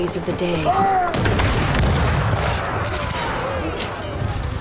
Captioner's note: gunfire